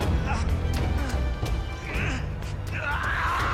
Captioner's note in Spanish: Quejidos